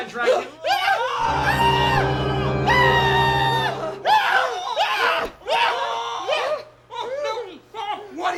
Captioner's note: screaming